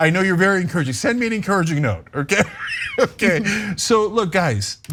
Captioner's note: laugh